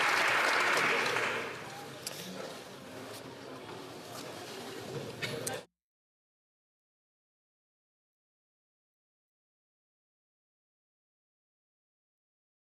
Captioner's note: some Applause